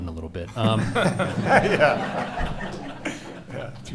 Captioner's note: laughing